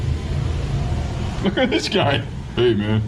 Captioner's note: laughing